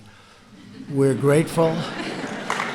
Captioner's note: applause